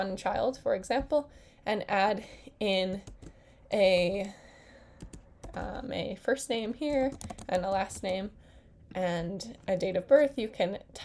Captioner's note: typing sounds